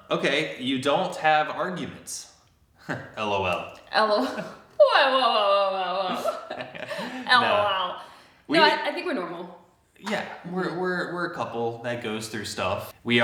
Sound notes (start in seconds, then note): 2.9 scoffs; 5.9 chuckles; 6.1 both chuckle